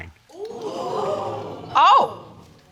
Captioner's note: audience gasps